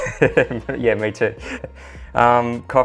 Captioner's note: laughter